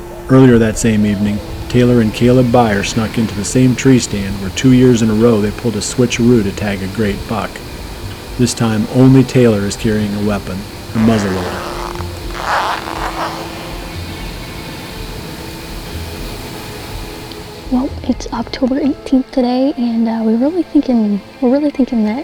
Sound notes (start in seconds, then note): 10.9 sound of zipper